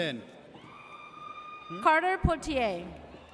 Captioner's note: audience cheers